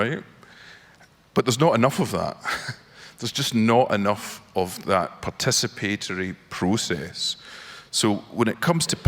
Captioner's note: laughs